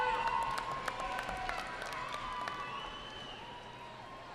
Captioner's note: cheering